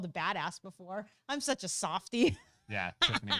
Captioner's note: laughs